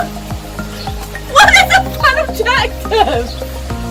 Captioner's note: laughing and shaking off some water off the top